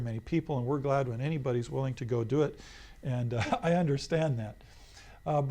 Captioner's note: laughs